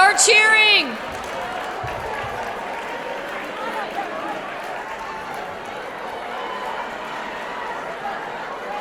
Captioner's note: cheering